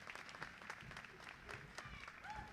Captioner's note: applause